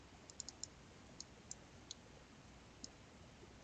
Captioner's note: mouse clicking